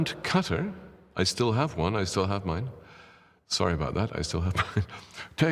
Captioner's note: laughs